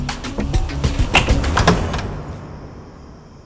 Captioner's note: Door opening